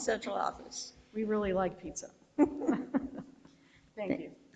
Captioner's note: board member laughs